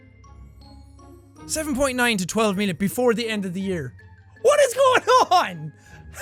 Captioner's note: laughs